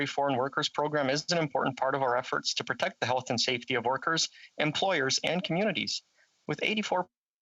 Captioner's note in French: voix de l'interprète